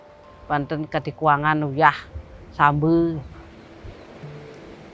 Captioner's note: speaking foreign language